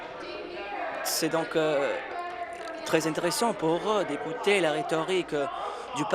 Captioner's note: applause